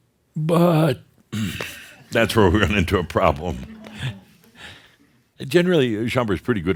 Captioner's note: a few chuckles; chuckles